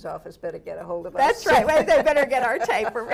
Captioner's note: laughs